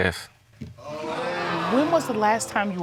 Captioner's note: audience exclaims